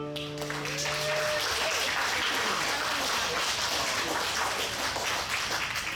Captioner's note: audience applauds and cheers